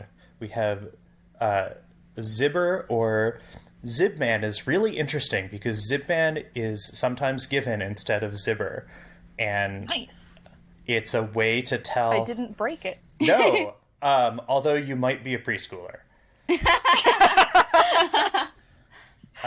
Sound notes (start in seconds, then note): 13.2 laughs; 16.5 laugh